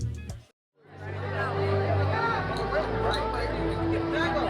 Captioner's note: chatter